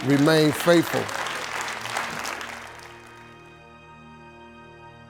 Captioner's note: audience applauding